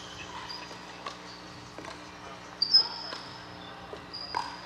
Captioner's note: ball bouncing